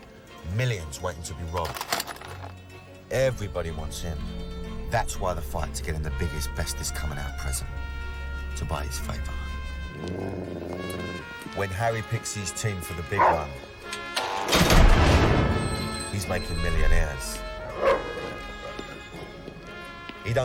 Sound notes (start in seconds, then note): 9.8 dog growls; 17.7 dog barks